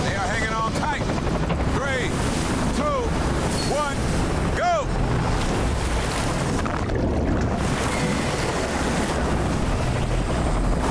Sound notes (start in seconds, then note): 5.2 helicopter rotors thumping; 5.2 water rushing